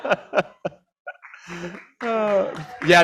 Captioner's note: laughter; applause